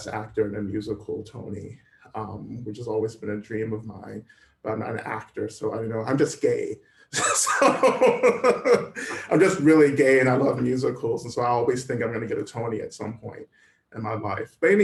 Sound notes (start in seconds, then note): 7.1 laughter